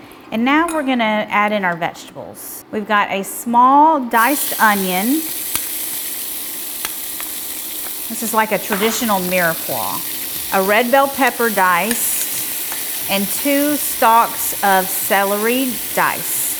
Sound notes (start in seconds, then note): 5.1 oil sizzling